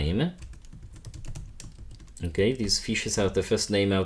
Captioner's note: keyboard clacking